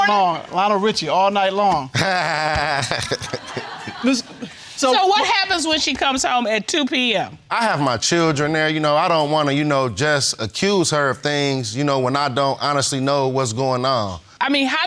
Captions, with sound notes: All night long. Lionel Richie. All Night Long. (ALL LAUGHING) So what happens when she comes home at 2:00 p.m.? I have my children there, I don't want to just accuse her of things when I don't honestly know what's going on.